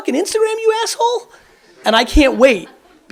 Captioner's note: audience laughs